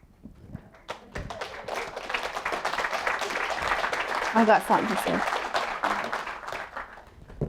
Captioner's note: applause